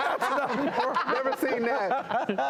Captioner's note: laughing